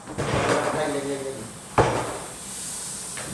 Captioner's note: aggressive snake hisses